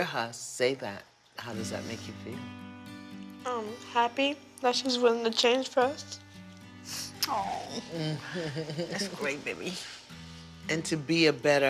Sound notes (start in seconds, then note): 6.8 sniffles; 7.6 iyanla chuckles